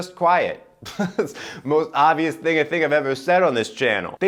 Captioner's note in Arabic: يضحك